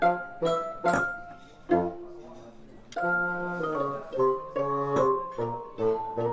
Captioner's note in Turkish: Sofra takımı şangırdıyor